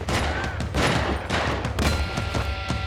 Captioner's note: gunfire continues